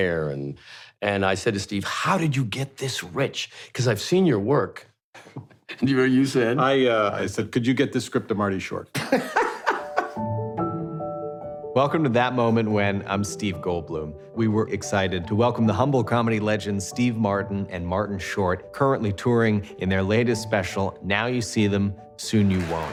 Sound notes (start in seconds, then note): 8.9 laughter